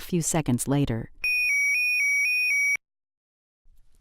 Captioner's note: siren alarm